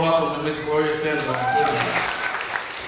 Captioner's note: applause; cheers